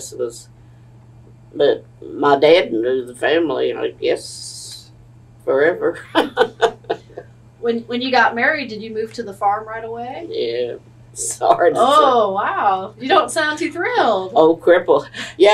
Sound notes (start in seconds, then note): 11.3 laughs